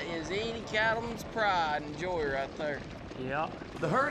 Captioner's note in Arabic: ضربات حوافر